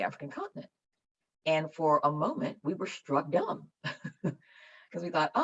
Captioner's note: chuckles